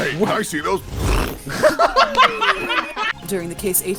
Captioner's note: laughter